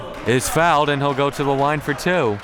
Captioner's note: whistle blowing